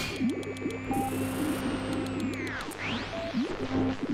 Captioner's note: radio static